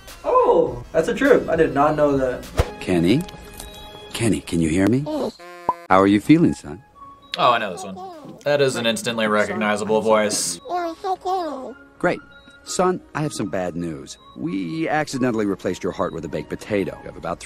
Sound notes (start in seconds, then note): 10.5 babbles